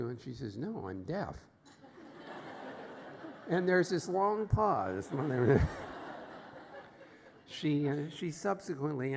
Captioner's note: laughter